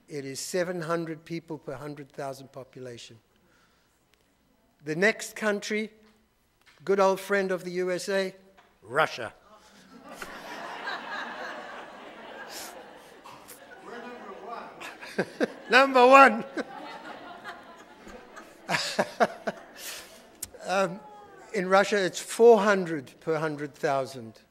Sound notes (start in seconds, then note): 10.1 audience laughing; 16.5 laughing; 16.9 audience laughing